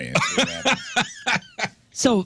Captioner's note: laughing